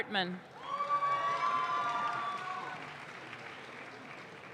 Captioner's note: audience claps